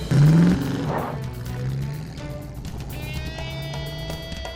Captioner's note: engine revs up